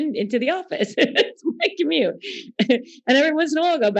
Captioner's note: laughing